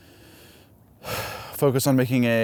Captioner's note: sighs